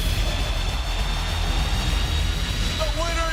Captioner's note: cheers and applause